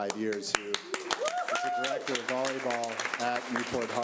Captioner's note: audience applause